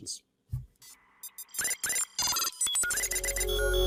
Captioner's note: robot beeping; dynamic music